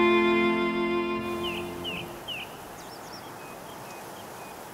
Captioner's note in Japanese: 鳥のさえずり